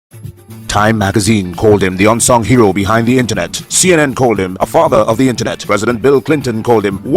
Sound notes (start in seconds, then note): 0.0 radio Announcer